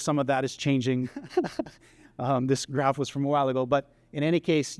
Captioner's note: laughter